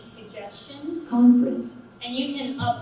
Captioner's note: computer Voice